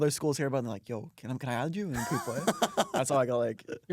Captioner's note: laughs